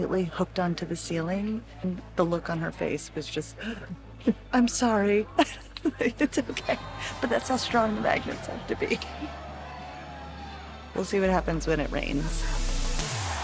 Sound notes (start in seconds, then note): 3.6 gasp; 5.3 laughs